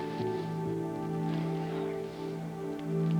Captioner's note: whispering